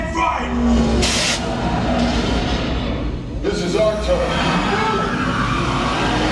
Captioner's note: fire whooshing